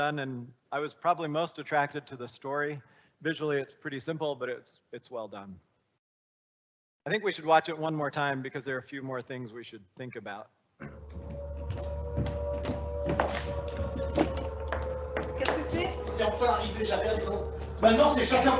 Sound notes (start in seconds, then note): 10.8 dramatic music; 11.6 siren wailing; 14.2 speaking in foreign language